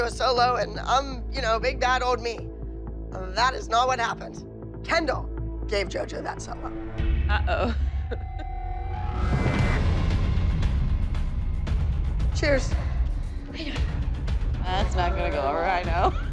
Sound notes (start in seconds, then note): 7.6 laughs; 9.5 suspenseful music